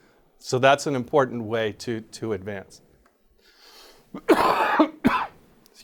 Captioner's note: coughs